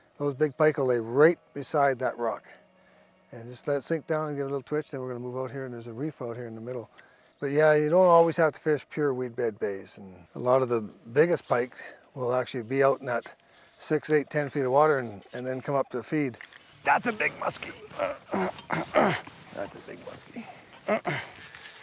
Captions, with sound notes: Those big pike'll lay right beside that rock. And just let it sink down, and give it a little twitch. Then we're gonna move out here, and there's a reef out here in the middle, but yeah, you don't always have to fish pure weed bed bays. A lot of the biggest pike will actually be out in that 6, 8, 10 feet of water and then come up to feed. - That's a big muskie (grunts). That's a big muskie (grunts).